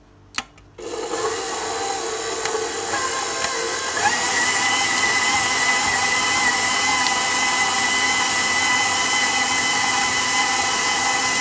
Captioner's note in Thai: เสียงเครื่องตีกำลังทำงาน